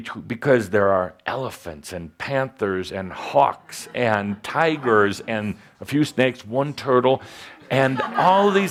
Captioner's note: laughter